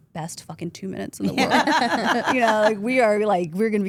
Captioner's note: group laughs